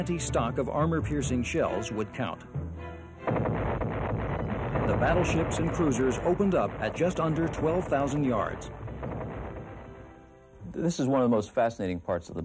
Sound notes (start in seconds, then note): 3.0 explosion